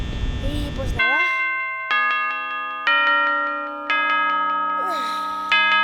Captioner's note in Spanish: Campanadas de la victoria :D